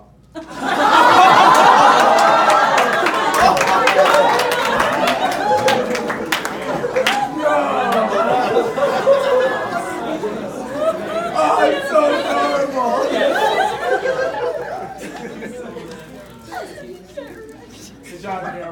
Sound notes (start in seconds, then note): 2.6 laughs